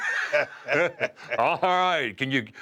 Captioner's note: laugh